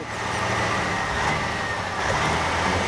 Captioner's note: engine Running